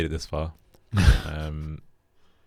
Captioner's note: sniggers